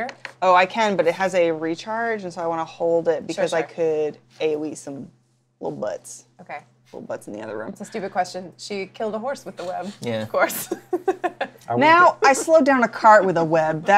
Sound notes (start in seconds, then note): 10.6 laughs